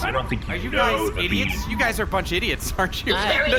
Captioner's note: laughing